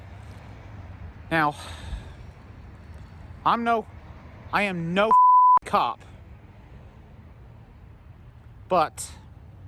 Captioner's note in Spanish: bip